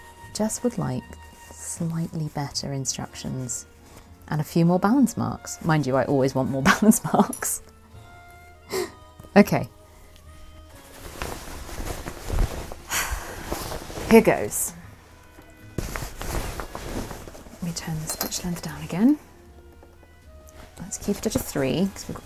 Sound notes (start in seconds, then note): 12.6 rustling